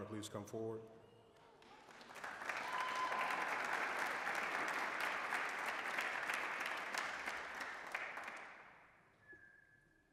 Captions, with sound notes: please come forward? (applause)